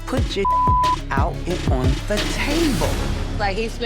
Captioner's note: beep